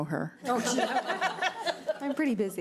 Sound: board members laugh

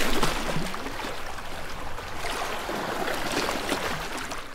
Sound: water sloshes

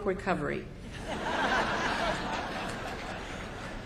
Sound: laughter

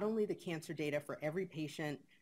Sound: none

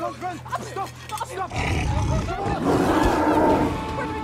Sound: growling

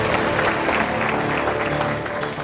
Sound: applause

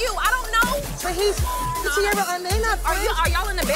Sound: beep

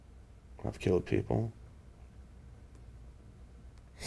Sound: sniffs

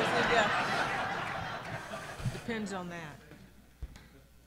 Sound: audience laughing

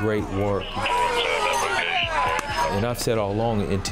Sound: siren wailing

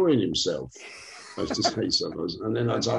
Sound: laughs

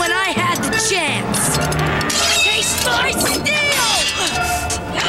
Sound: straining; both grunting

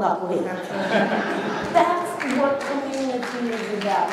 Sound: laughter and applause

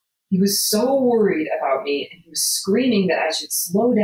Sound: none

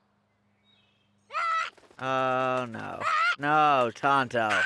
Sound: bird squawking

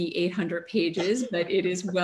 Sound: laughter

